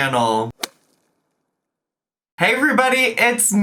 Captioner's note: logo thuds